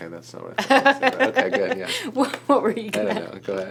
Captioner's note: laughing